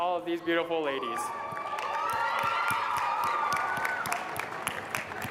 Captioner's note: applause